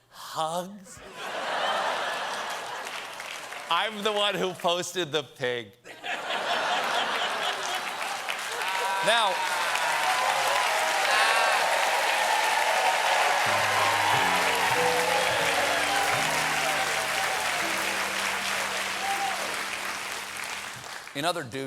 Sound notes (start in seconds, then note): 8.7 applause; 8.7 laughter